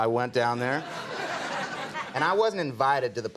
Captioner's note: audience laughing